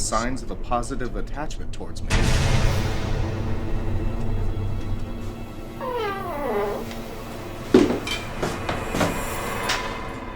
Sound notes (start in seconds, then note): 2.0 dramatic music; 5.8 door creaking